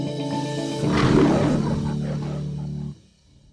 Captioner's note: bright music; lion's roar